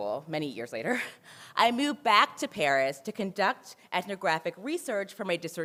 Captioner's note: laughs